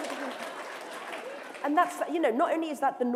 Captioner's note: applause; laughter